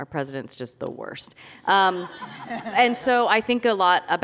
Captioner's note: laughter